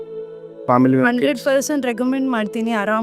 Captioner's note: in Kannada